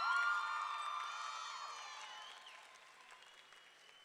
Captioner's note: audience cheering; audience clapping